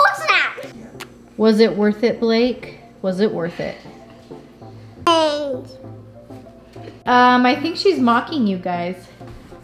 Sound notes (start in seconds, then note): 5.0 baby talking